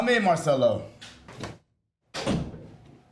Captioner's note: door closes